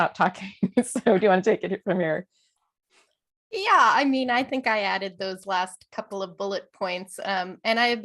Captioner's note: laughter